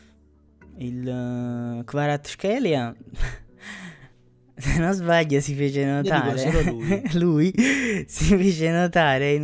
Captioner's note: laughs